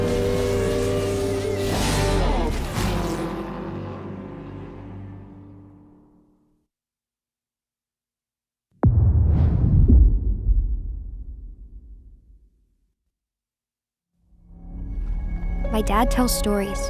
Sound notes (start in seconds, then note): 2.6 car engines humming; 10.9 dramatic sound